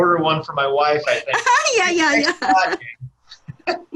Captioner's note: laughs